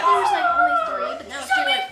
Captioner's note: gasps